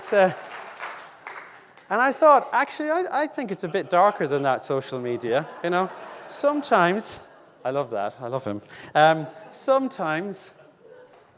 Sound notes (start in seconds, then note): 0.0 audience laughing; 6.0 audience laughing